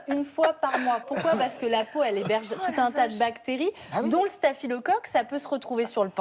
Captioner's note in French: rires